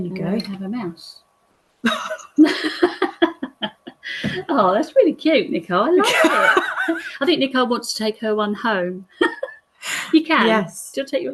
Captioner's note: laugh